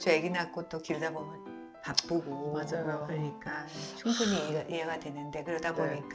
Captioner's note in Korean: 콧방귀